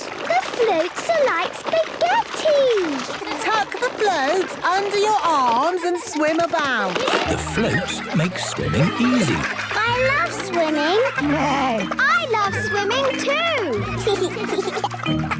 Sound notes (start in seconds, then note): 11.5 neighs; 14.3 giggles